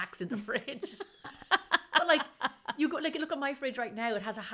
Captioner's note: laughing